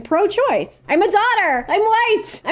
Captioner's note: increasingly frantic delivery